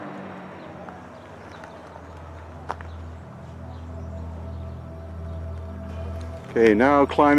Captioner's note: birds chirping; gentle music